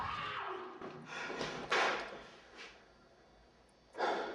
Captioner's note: banging; girls screaming